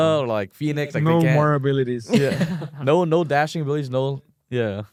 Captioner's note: laughs